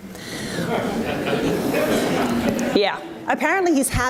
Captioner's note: audience laughs